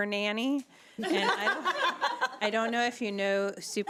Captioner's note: laughing